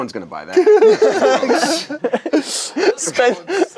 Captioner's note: group laughs